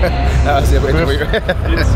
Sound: in swedish

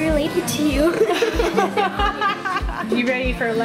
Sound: laughs

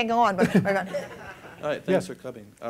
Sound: laughter

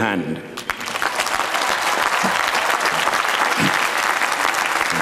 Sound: applause

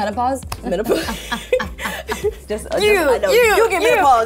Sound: laughter

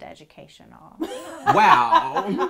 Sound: group laughing

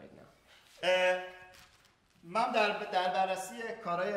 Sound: speaking in farsi

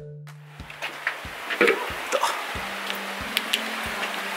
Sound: sound of me hitting my head in the cave

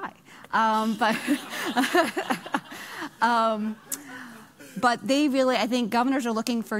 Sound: laughing

